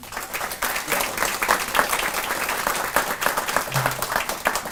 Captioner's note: audience applauding